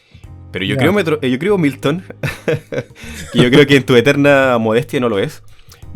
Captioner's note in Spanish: risas